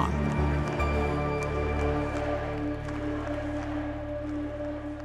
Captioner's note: crowd chanting "U.S.A.! U.S.A.!"